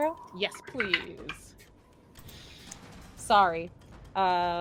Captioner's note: dice rolls